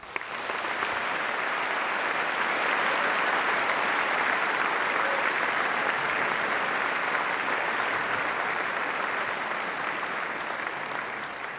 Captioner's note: applause